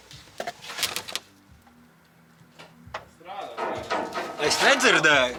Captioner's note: silence